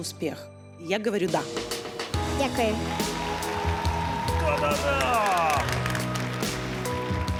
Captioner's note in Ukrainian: оплески